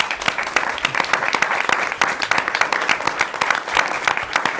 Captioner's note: audience clapping